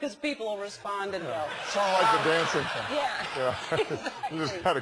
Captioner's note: laugh